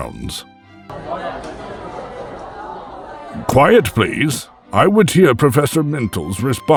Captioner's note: appreciative murmurs